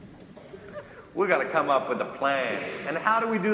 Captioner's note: crowd laughter